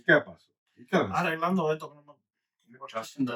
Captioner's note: speaking In Foreign Language